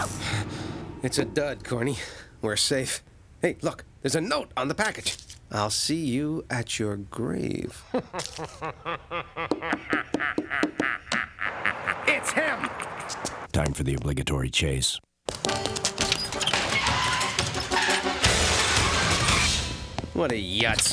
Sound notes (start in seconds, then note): 7.8 evil laughter in distance; 16.2 tires squealing